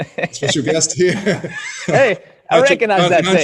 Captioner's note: laughing